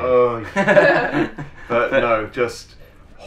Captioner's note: laughs